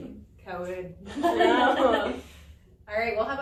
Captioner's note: all laugh